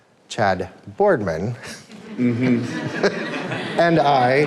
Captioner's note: group laughs